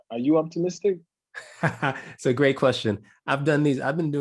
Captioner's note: laugh